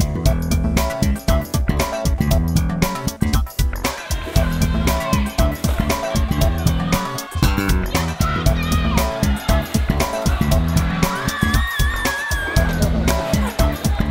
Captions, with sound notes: You've got this! [VARIOUS CRIES] [SCREAM]